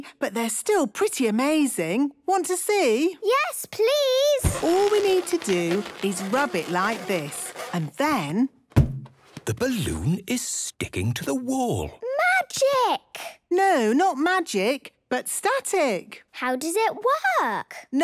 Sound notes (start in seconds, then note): 4.4 balloon rubbing; 8.4 balloon echoes